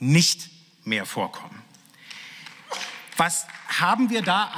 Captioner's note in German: Beifall